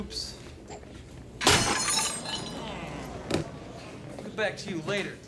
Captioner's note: shattering